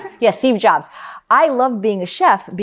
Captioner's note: laughs